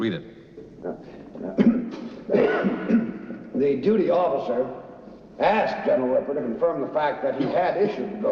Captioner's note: clearing throat